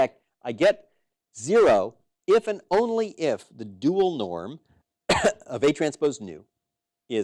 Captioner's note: cough